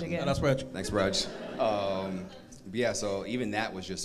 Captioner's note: crowd laughs